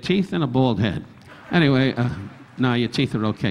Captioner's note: audience laughing